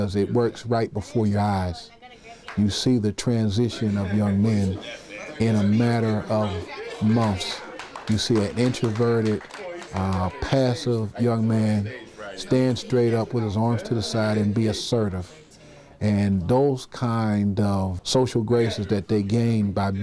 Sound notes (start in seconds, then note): 7.0 clapping